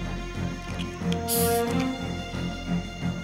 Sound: hissing

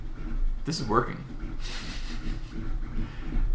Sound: laughs

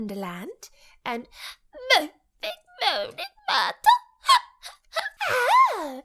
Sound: crying

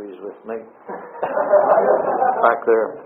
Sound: audience laughter

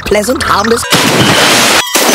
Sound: bloosh

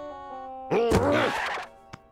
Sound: grunts

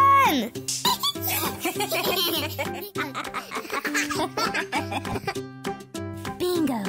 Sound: laughter

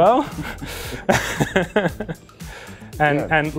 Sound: laughing

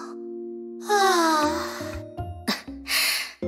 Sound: sigh

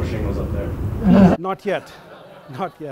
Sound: audience laughs

